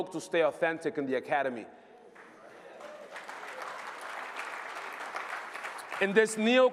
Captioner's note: applause